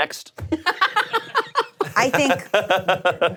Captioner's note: laughing